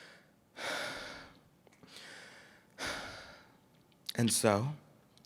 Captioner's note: takes deep breaths